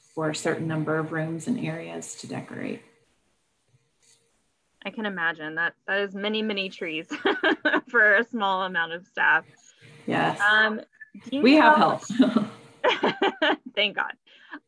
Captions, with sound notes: for a certain number of rooms and areas to decorate. - I can imagine that has many, many trees (laughs) for a small amount of staff. - Yes. We have help (chuckles). - (laughs) Thank God.